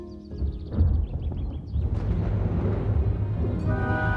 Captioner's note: thunder rumbles